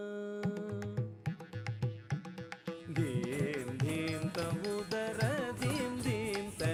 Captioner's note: ghungroo bells tinkling